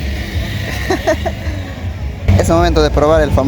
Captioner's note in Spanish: risas